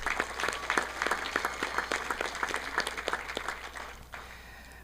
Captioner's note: audience applauding